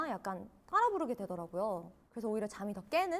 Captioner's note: unconsciously humming